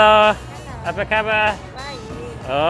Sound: speaks in foreign language; shop worker speaks in foreign language

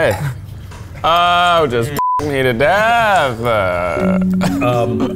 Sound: beep; mysterious music; beep

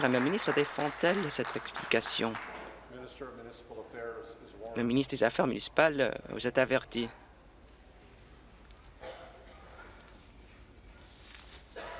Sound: applause

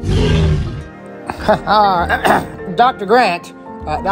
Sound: Ian clearing his throat

